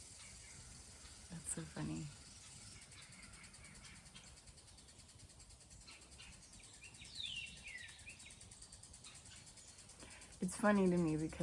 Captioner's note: birds chirping